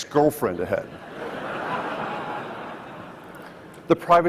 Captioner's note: audience laughs